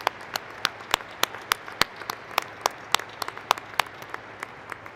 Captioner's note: thank you.APPLAUSE